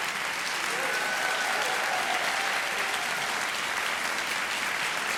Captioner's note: audience cheering